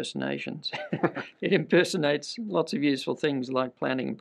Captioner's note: chuckles